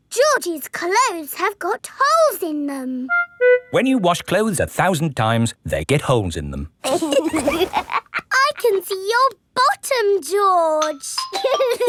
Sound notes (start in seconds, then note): 6.8 laughs; 11.3 giggling